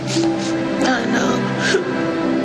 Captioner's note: crying